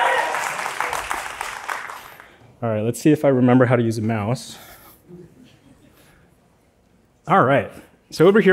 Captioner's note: applause